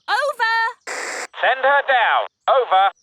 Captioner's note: walkie-talkie crackles